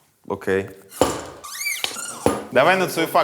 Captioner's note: bar squeaking